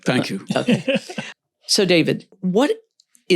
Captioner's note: laughs